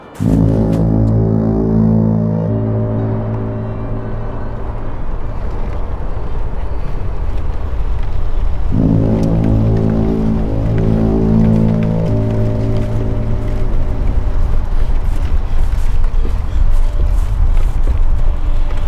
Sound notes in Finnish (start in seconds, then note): 0.1 sumutorven jylinää; 4.1 matala jyrinä lähestyy, jää murtuu; 8.7 sumutorven jylinää; 15.7 raskasta hengitystä